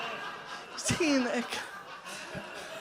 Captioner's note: audience groans and laughs loudly; wistfully